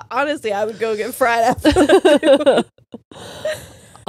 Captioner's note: all laughing